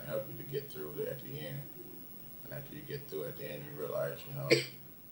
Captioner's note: coughs